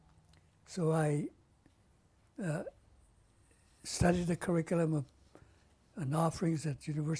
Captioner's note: pauses for 3 seconds